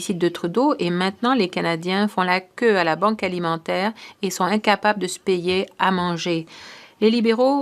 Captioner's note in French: voix de l'interprète